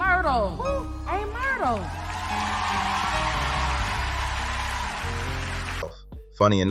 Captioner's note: cheers